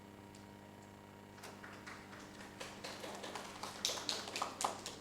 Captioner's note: audience applauding